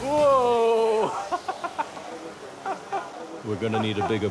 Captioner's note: laughs